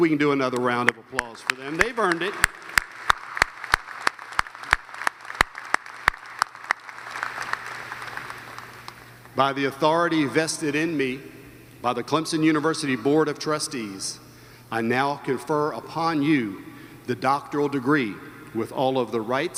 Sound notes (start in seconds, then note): 7.3 applause